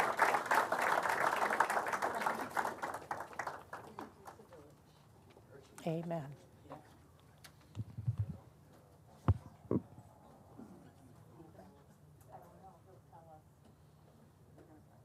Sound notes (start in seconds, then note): 2.3 applause